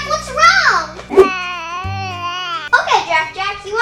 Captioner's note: coos